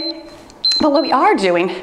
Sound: timer beeps

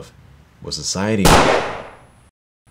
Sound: gunshot

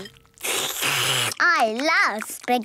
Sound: slurping

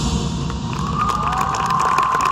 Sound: cheering

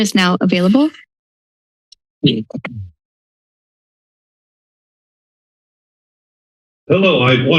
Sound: silence

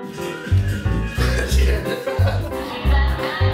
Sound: laughter

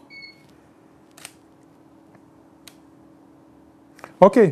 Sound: camera beeps; shutter clicks

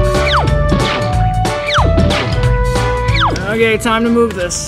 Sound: playful music; cartoonish whistling

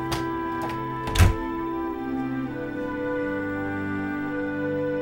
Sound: door thudding

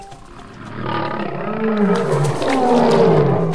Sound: roar of a lion

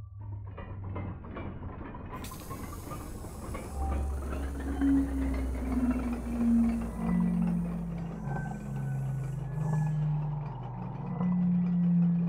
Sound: clanging of gears and hissing of steam, laughter as if from a nightmare

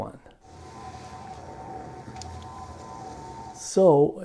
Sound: ambient warehouse sounds

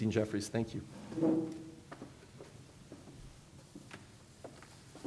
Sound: footsteps

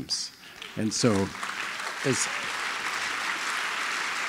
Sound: applause

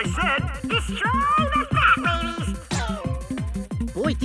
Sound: higher voice

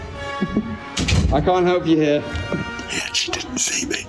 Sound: door shuts; whispering

